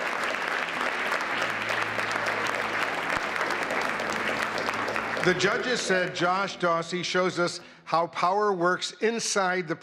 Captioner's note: applause